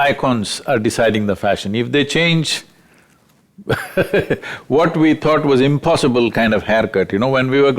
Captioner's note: laughs